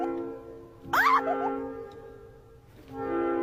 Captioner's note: clipped scream; clipped scream x2